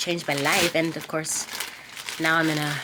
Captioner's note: bag crinkling